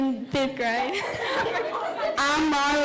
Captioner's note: girls laughing